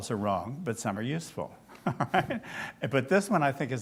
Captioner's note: laughs